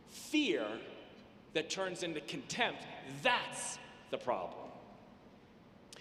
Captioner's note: none